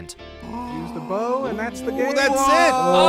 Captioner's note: excited noises